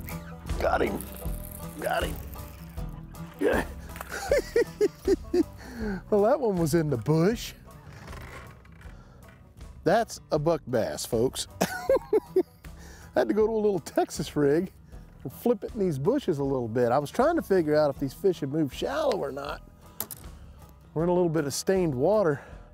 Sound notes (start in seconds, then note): 2.4 chuckling